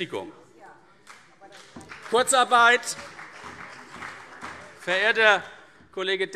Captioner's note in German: Beifall CDU